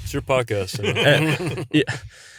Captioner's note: laughs